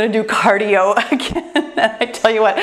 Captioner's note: laughs